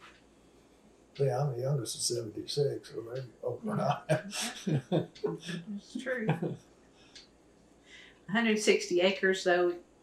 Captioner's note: laughter